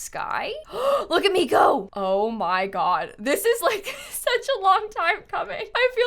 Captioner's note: gasps